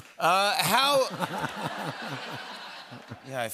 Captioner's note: laughter